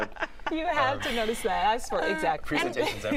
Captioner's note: laughter